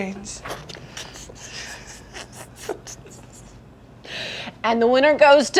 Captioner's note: laughing